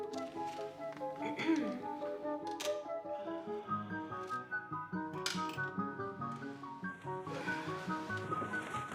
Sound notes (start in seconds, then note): 1.2 Madeleine clearing her throat